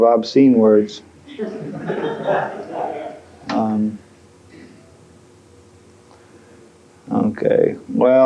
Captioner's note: laughing